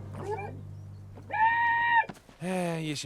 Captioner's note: muffled screaming